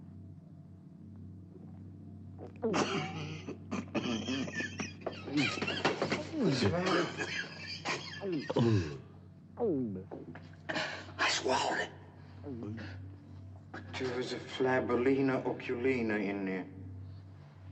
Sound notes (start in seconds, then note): 2.4 coughing; 9.2 gulps